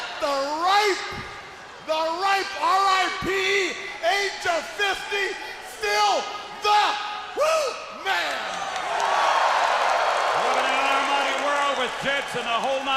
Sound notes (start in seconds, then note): 6.7 crowd cheering